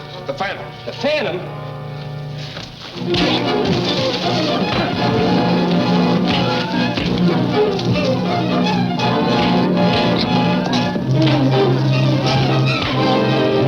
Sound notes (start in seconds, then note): 2.8 dramatic music; 3.0 fists thudding